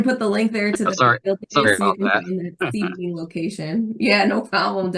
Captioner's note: laughs